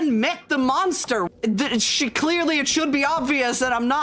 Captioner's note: stuttering